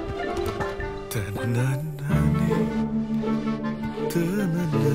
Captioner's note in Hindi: गुनगुनाते हुए